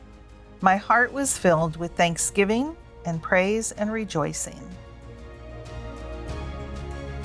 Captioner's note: women’s voice reading